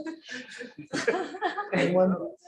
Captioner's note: laughter